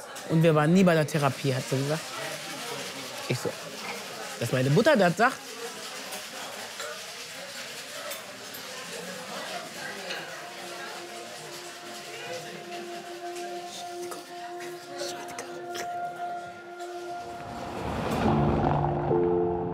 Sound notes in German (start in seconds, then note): 5.5 Restaurantkulisse; 9.8 Leise gefühlvolle Musik; 18.2 Gefühlvolle Musik